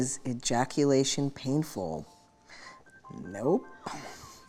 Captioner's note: chuckles